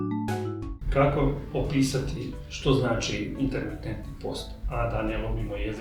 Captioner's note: in Croatian